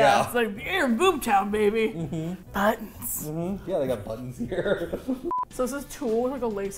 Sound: laughs; whispers; laughs

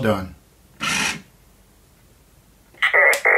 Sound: machine whirring; machine beeping

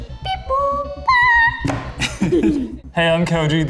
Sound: laughing

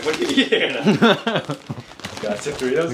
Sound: laughs

